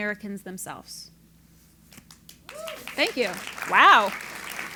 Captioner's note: applause